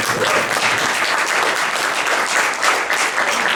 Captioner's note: clapping